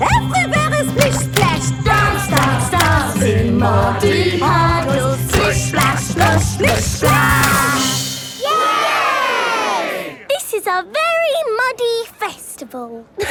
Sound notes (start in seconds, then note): 8.4 all cheering